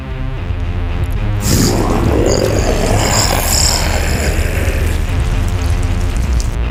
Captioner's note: growls and roars